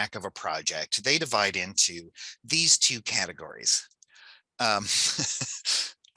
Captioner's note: laughs